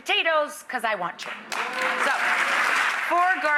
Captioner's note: clapping